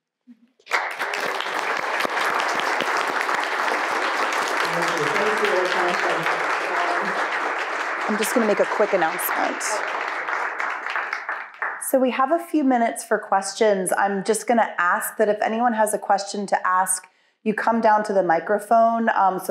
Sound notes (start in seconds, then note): 1.1 audience applauding